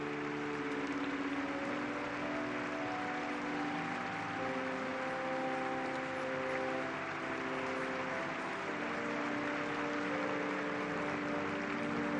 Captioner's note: applause